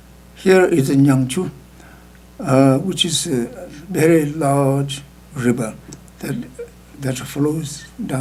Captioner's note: speaking tibetan